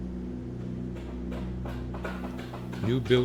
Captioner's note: hammer thumping